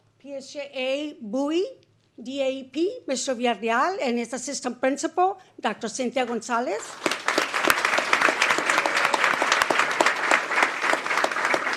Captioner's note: applause